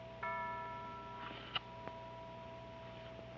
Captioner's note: bell tolling